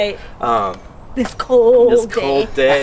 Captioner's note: laughs